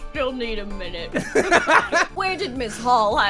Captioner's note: laughter